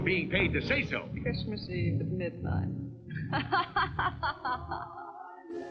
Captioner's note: laughing